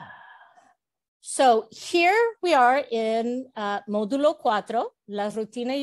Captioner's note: Spanish